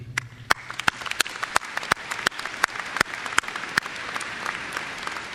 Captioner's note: applause